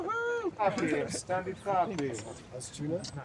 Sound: indistinct conversations

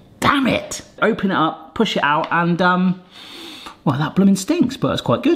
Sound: sniffs

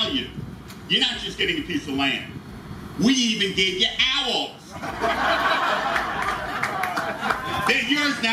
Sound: attendees laugh

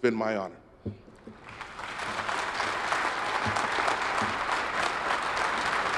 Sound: attendees applauding

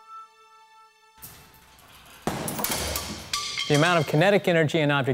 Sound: pendulum banging

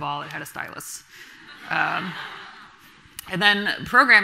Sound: audience laughing

